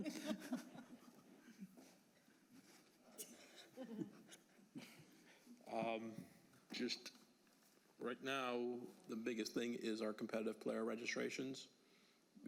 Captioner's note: laughter